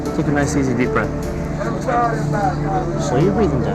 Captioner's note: chatter